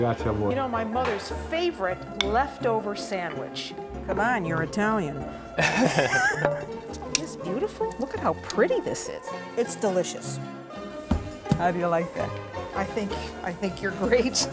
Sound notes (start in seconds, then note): 5.6 laughter